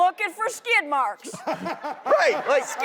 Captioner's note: laughter